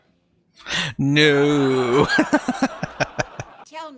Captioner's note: laughing